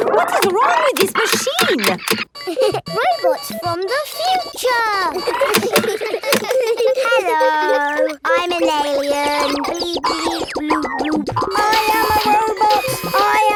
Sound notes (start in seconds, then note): 4.2 laughs; 4.8 kids giggling